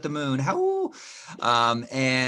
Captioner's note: howling